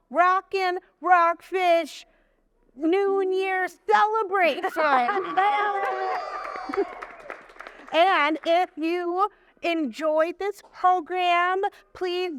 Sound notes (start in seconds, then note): 5.0 laughing; 5.1 audience applauding and cheering